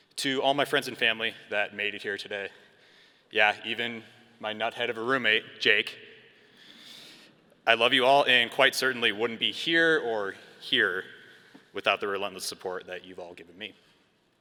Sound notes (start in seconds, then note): none